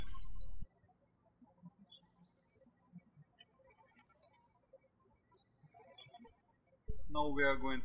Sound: birds chirping

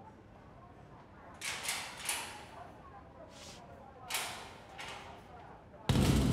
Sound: metal door opening; boom

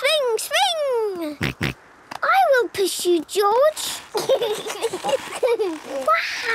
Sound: snorting; kids giggling

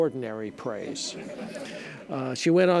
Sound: audience laughing

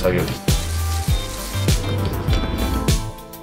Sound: speaking in foreign language; scraping

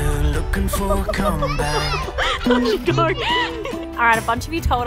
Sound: laughing

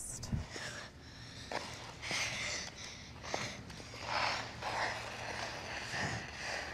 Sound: skates swish and scrape on ice

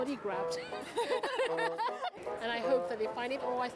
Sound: laughter

